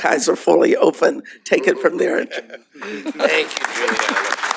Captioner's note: laughter; applause